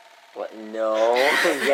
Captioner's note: Sarcastic